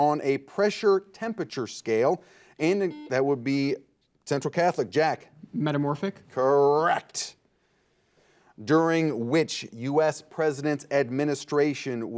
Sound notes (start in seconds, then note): 2.6 buzzer beeping